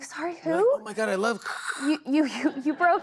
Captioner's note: imitates static